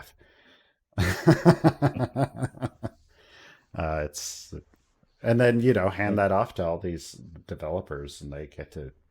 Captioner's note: laughs